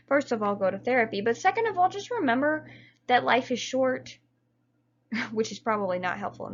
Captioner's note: chuckles